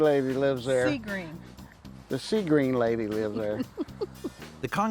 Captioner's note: giggles